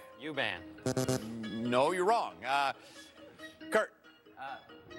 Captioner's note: bell buzzes